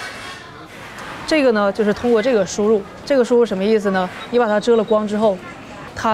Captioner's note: speaking in Chinese